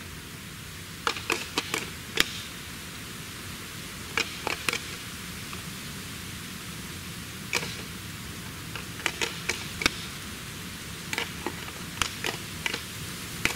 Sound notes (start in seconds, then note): 1.1 rattling Antlers